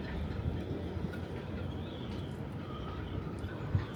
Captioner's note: none